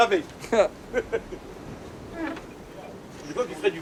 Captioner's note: all laughing